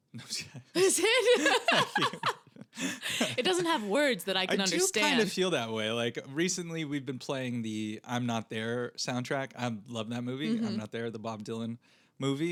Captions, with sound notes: No, it's not. (laughing) It doesn't have words that I can understand. I do kind of feel that way. Recently we've been playing the I'm Not There soundtrack. I love that movie, I'm Not There, the Bob Dylan movie.